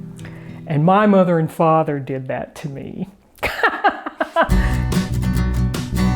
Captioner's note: laughing